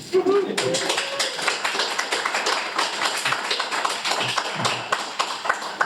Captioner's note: audience applauds